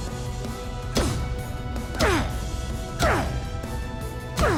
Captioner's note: grunting